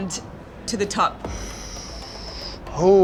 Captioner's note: inhales